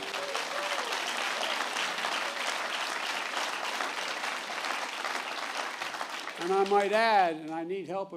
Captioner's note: applause